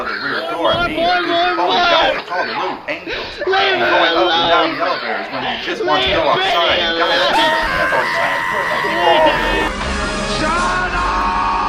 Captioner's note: yelling and crying